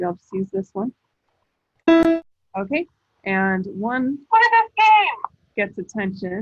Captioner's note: voice from iPad